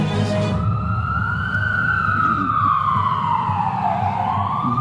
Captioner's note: ambulance siren ringing